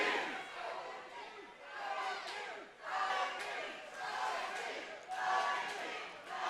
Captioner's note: crowd Chanting 'OMG'